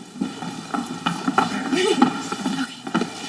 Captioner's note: footsteps thudding